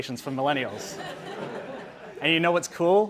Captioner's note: audience laughing